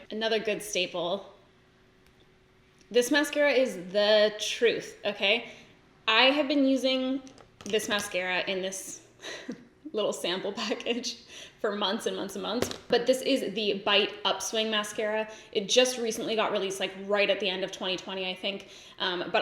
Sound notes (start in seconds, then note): 9.2 giggles